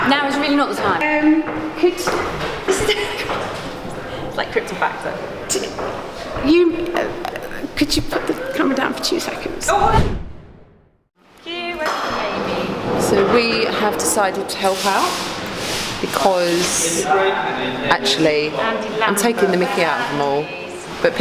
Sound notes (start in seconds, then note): 2.7 laughing; 9.8 air whooshing